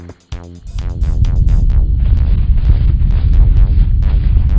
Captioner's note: low rubmle